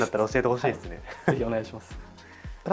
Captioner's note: laughs